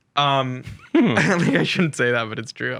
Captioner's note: laughing